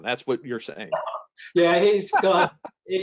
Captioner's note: laughs